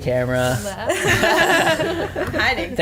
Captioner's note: laughter